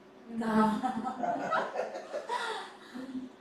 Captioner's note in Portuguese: risos